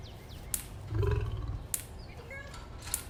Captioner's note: lion growl